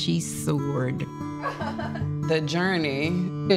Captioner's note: laughing